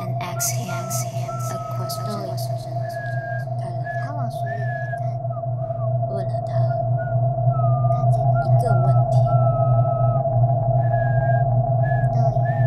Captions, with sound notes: and asks him a question (weak whistling) (speaking in Mandarin)